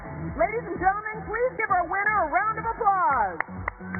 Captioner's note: cheers and applause